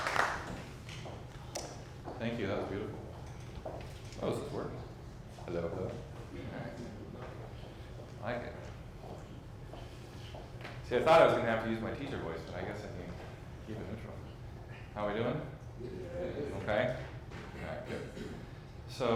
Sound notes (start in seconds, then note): 16.1 audience reply in unison